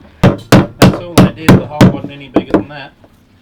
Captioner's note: hammers